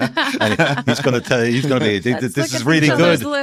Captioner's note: laughing